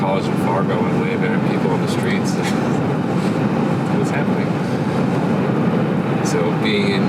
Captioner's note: laughs